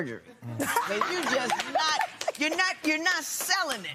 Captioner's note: laughter